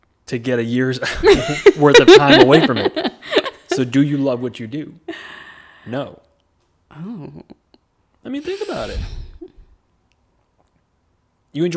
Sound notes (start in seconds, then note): 1.3 laughing